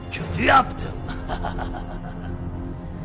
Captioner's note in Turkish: gülme sesi̇